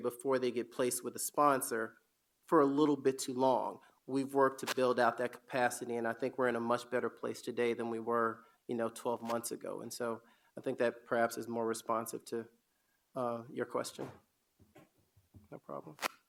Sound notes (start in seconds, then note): none